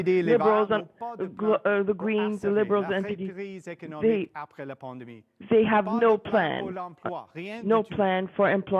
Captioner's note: speaking French